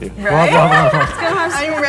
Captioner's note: everybody laughing